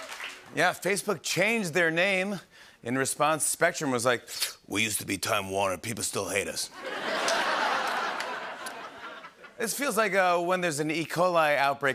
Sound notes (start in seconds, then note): 4.2 smoker's gravelly voice; 6.8 laughter and applause